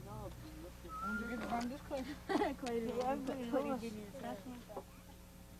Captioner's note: people chattering